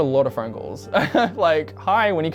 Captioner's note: laughs